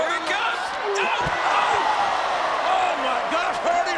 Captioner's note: audience groans